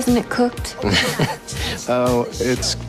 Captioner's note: laughs